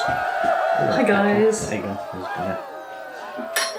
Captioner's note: cheerin